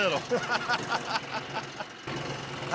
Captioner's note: laughter